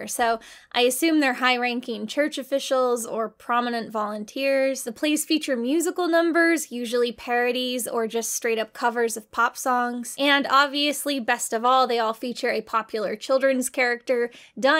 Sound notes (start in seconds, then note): none